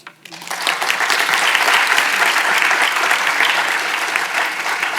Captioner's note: audience applauds